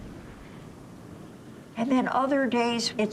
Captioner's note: wind howling